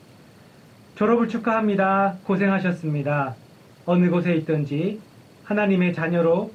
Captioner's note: speaking in foreign language